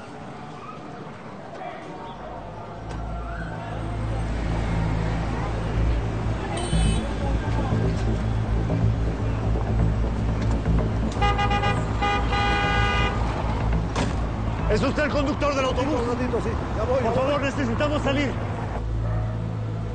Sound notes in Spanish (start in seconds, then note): 11.1 Claxon